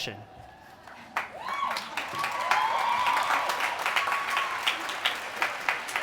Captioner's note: applause